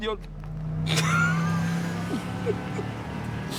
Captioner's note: car accelerating